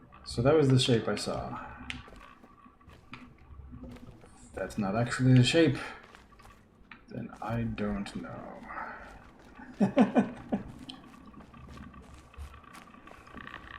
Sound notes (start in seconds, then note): 9.5 chuckles